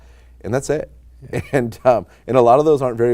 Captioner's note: laughing